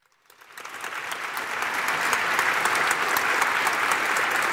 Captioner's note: applause